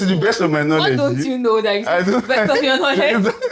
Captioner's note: laughs